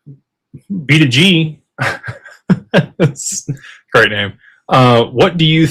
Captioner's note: laughter